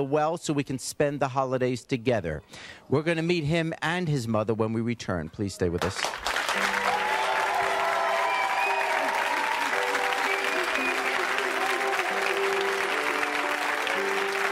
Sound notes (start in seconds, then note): 5.8 audience cheering and applauding